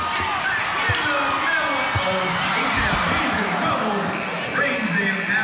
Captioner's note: crowd cheers